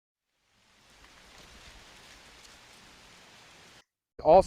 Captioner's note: grass rustling